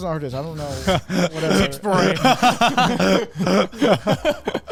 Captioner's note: men laughing